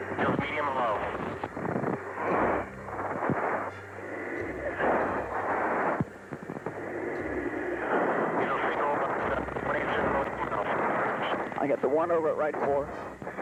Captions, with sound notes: Medium low. (radio static) I got the one over at right 4.